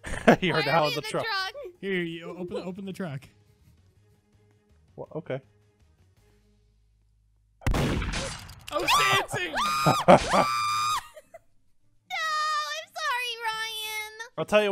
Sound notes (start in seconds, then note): 0.0 laughs; 7.6 gunshot, slashing; 8.8 screaming